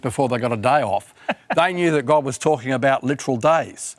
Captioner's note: laughs